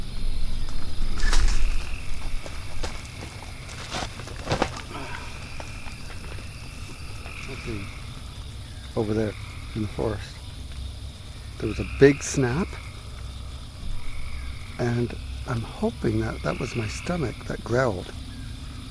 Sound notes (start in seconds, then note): 0.0 footsteps; 0.1 crickets